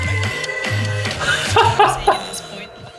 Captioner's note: laughs out loud